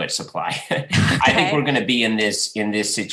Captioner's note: laughs